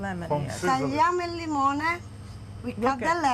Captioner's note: speaking Italian